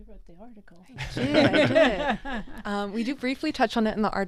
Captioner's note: all laughing